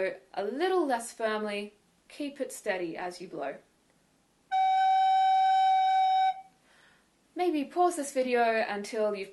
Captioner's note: blows steady note